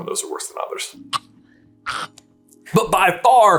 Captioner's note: hack haaaaaack